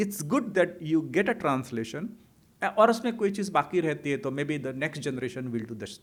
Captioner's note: hindi